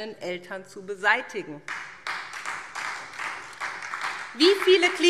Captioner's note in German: Beifall SPD